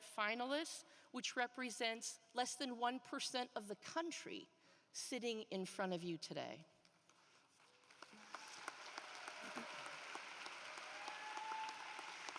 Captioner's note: applause